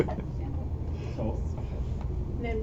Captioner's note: laughter